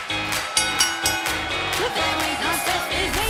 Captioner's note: bell rings